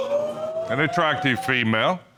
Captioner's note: gasping